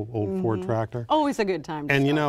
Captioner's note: laughing